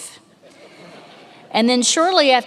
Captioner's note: many laughing